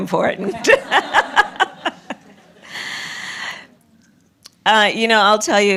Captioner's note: laughter